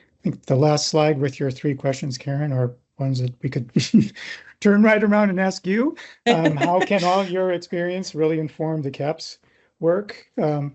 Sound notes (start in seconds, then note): 3.0 laughs